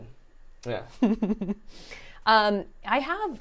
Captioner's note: laughs